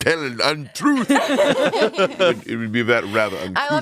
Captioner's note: everyone laughs